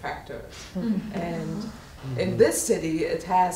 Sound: audience laughing

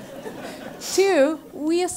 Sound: laugh

